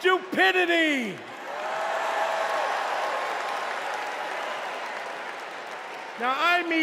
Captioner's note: cheers and applause